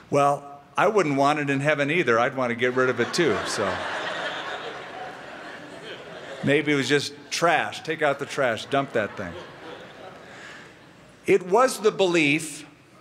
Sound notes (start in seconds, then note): 2.7 laughter